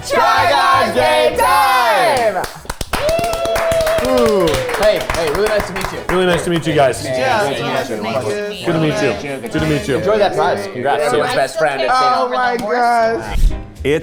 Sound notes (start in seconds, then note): 2.8 group cheering and clapping